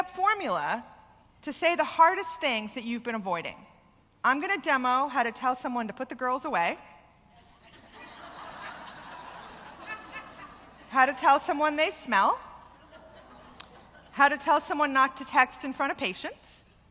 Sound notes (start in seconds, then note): 7.4 laughter